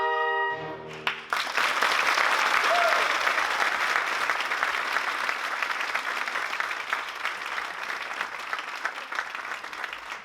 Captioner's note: applause